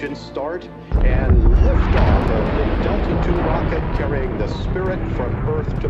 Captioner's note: loud blast